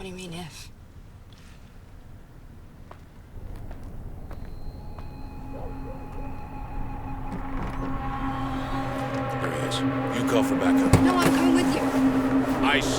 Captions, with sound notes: - What do you mean if? (tense music) (door creaks) - There he is. You call for backup. - No, I'm coming with you.